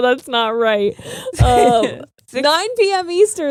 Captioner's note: laughing